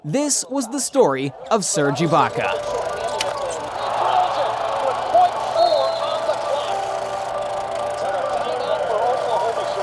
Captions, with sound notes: This was the story of Serge Ibaka. (old movie projector sound) (announcer speaking)